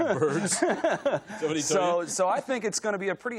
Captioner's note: laughter